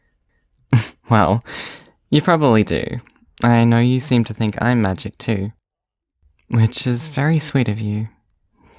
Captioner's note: laughs